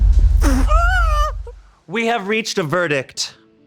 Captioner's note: person sighing